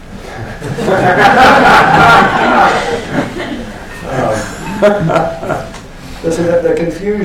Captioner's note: laughter